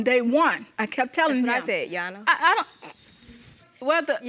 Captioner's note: snorts